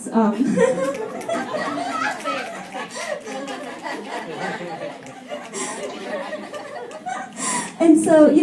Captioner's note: laughter and snaps